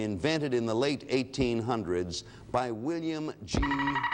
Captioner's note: alarm sounds